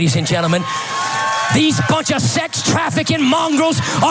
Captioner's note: applause